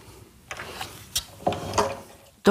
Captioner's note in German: Klacken